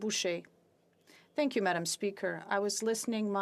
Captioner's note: speaking French